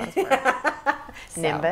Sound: laughing

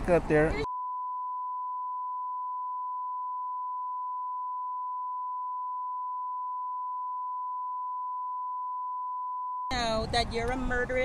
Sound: continuous beep

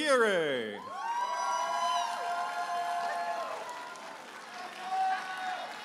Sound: audience applauding and cheering

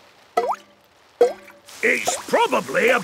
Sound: water dripping

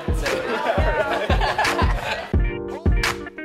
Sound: all laughing; peppy electronic music

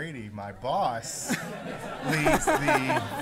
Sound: laughter

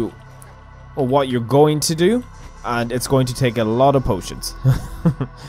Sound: chuckle

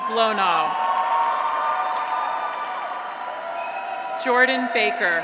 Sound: graduates cheer; audience applauds

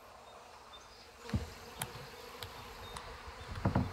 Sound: humming, birds chirping

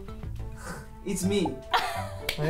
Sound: scoffs; laughs

